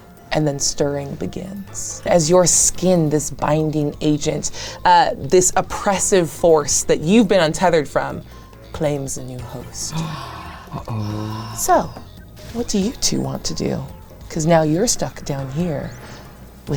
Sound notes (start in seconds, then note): 9.8 group gasps